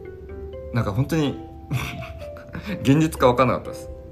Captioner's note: laughs